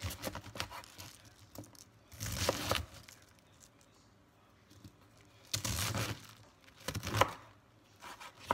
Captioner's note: chop